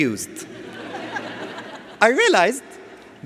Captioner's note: audience laughs